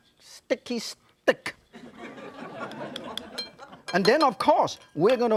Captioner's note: audience laughs